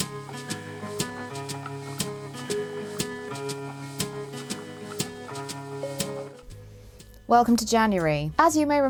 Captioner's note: ball winder whirs